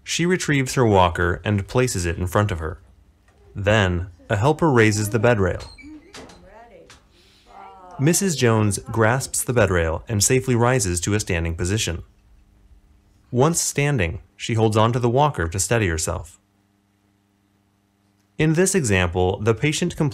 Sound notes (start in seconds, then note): 4.1 women chatting